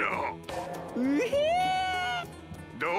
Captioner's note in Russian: Звуки_довольного_Секко.mp3